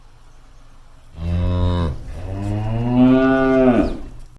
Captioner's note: cows moo